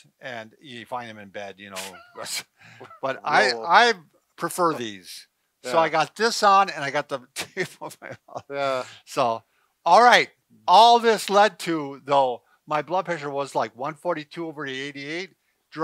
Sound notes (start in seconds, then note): 1.7 both laugh; 7.4 laughs